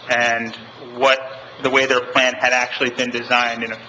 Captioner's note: none